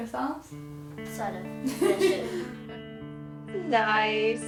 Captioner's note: interviewer laughing